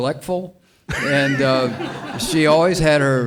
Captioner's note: all laughing